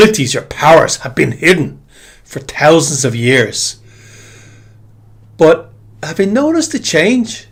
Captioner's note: sighs and gasps